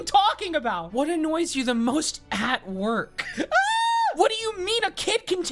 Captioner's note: screaming